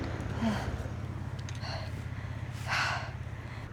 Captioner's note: sigh